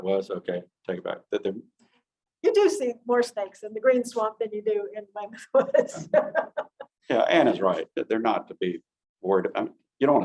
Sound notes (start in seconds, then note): 5.5 giggling lightly